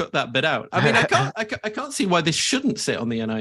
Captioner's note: chuckles